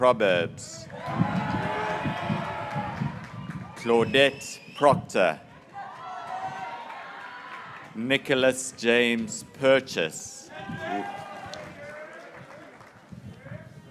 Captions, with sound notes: Anna Hunt Messinger, (graduates cheering) Timothy John Miklus, (graduates cheering) Eleanor Reggie Mildenstein,